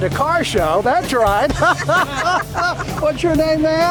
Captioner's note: laughs